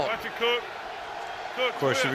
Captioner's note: pa announcement